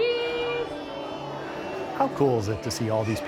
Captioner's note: crowd